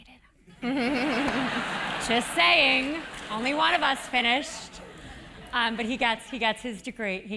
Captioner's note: laugh